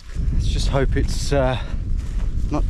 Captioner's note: none